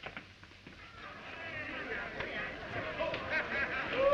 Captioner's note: inmates chattering indistinctly